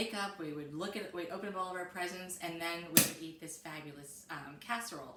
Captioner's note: champagne POP